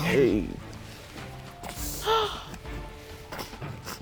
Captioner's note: gasps